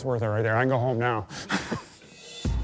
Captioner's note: laughs